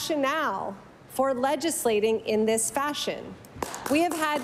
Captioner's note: applause